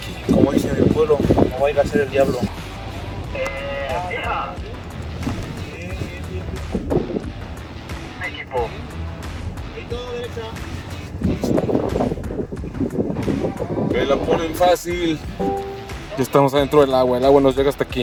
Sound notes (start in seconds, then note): 8.2 voice on radio; 10.3 wind blowing